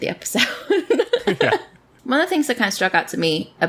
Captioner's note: laughs